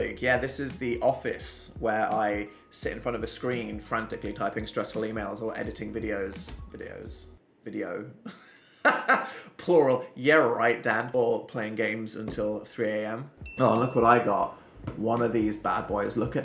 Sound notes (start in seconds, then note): 8.3 laughs